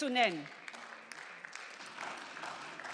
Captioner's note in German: Beifall